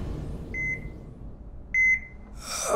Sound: beeping; Tom moaning

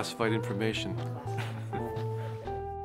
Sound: laughs

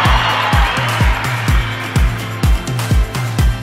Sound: applause

